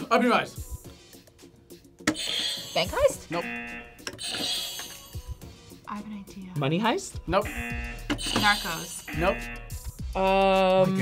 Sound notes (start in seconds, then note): 3.2 buzzer rings; 3.3 buzzer; 7.4 buzzer; 7.4 buzzer rings